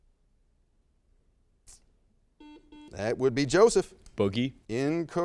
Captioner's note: buzzer sounds